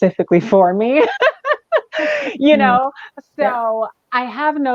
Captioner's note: laughs